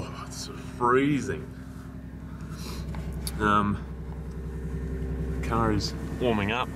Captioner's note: shiver